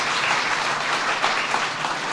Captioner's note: applause